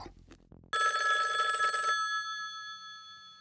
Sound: phone ringing

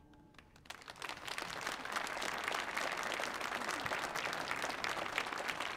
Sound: audience applauding

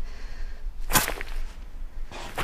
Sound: static noise

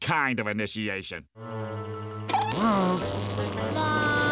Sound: buzzing

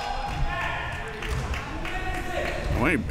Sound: clapping

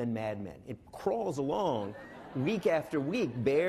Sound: laughing

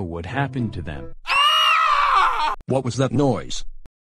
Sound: screaming

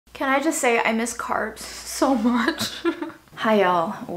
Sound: laughs

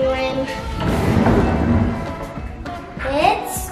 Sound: door opens

